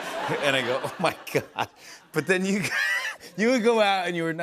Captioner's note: laughs